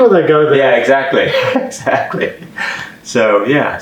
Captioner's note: laughing